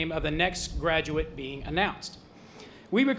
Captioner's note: none